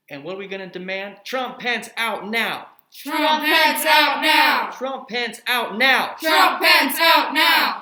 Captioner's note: continous Group Chant